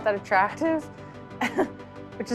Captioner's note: laughs